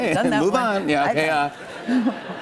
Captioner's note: laughter